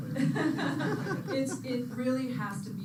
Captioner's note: laughter